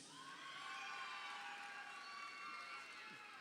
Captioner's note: crowd cheering